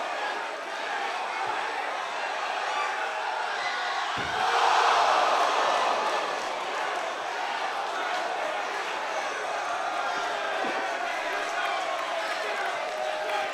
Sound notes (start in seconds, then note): 8.8 boos